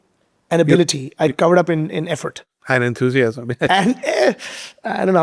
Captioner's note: chuckling